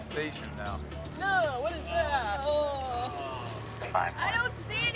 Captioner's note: others groaning